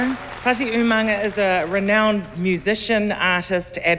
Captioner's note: cheering, applause